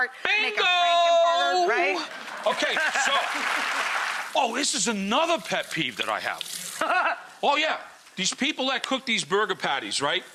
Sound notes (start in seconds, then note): 1.8 audience applauds